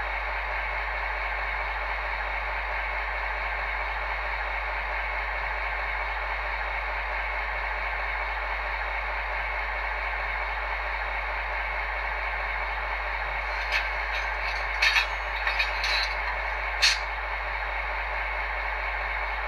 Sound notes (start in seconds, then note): 13.5 coupling sounds